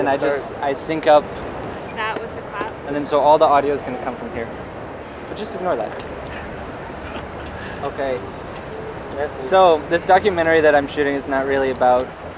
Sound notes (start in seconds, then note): 6.2 laughs